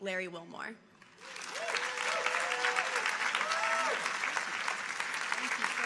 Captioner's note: audience applauding